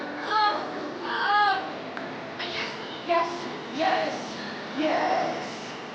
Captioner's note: yelling